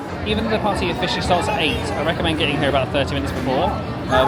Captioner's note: none